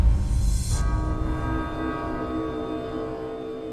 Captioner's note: large bells tolling